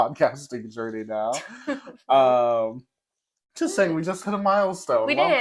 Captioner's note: laugh